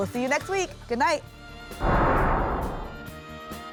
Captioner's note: whoosh